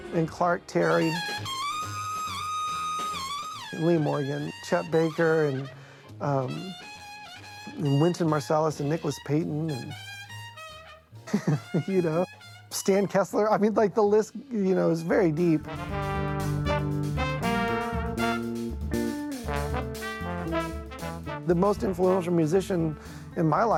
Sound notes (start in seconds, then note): 0.9 trumpet wailing; 11.2 laughs; 14.6 jazz music